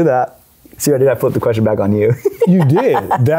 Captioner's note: laughs